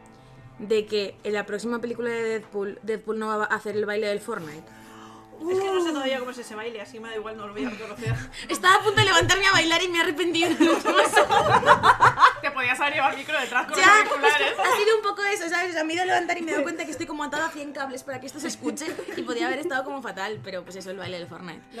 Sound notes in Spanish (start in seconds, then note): 10.3 risas